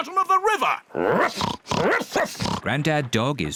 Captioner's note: oinks; barks